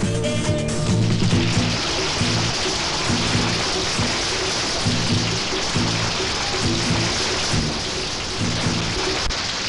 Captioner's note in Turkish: herkes alkişlar